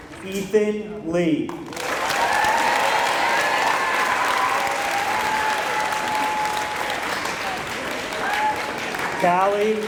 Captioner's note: applause